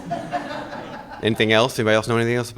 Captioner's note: audience laughing